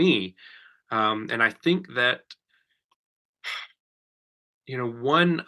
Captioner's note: sighs